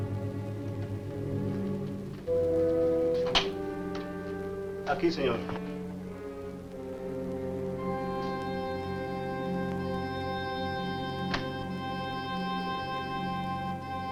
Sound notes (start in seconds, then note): 4.9 Mario speaks Spanish